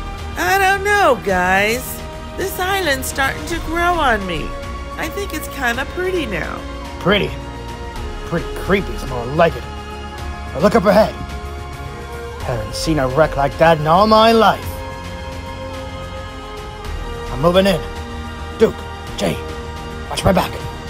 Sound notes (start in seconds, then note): none